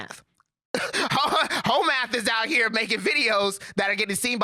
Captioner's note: laughs